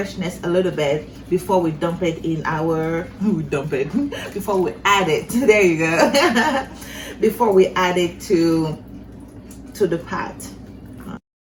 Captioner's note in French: rire